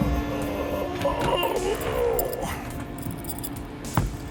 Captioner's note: groaning; upbeat music; chain rattling